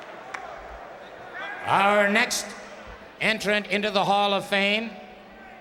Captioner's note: applause